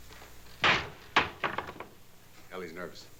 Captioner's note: door shuts